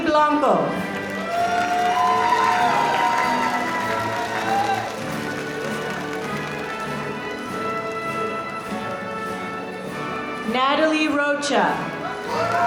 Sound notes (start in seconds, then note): 0.7 audience applauding